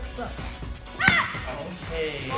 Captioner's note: Vivien grunts